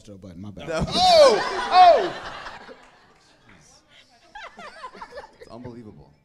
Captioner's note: audience laughing